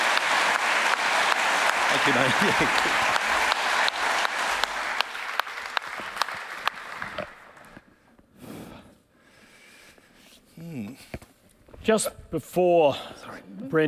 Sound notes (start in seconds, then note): 5.8 laughing